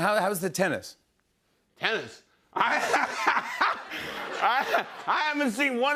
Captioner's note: laughing